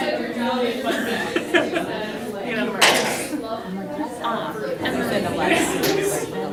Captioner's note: laughter